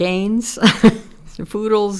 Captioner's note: chuckles